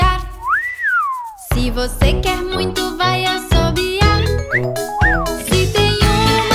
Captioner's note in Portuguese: Assobiando som; Assobiando som